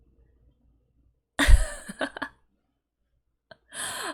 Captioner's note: laughs